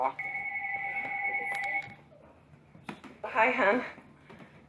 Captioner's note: phone ringing